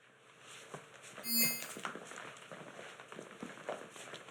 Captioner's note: soft dinging